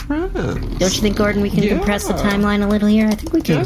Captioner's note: typing